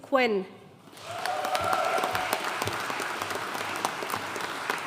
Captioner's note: audience cheering and applauding